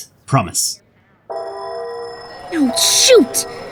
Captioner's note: school bell rings